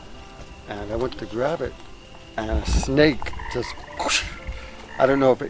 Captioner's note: whooshes